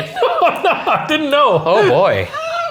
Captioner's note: laughing